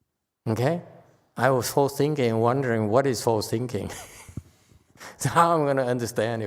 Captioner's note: laughs